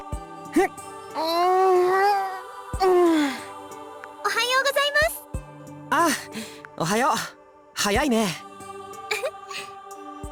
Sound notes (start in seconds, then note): 2.8 weary groan; 9.1 giggle